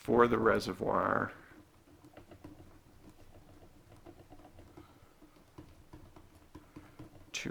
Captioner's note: writing